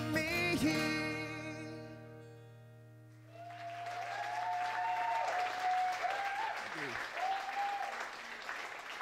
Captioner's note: applause